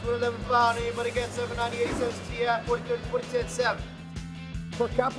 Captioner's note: imitating foreign language; speaking foreign language